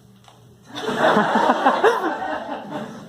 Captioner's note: weird laugh